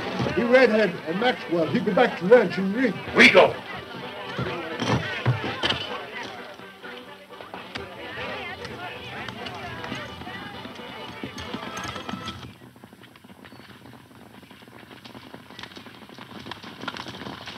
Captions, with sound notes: - The redhead and Maxwell heading back to ranch in rig. - We go. (people chattering) (lively country music) (hooves clopping)